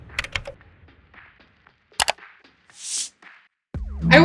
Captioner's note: mouse clicks